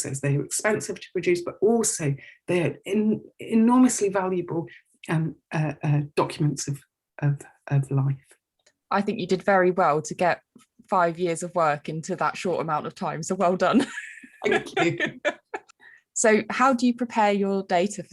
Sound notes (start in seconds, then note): 14.4 laughs